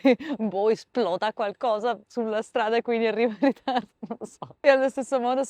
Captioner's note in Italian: risate